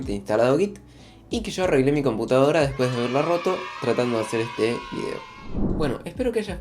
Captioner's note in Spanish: aplausos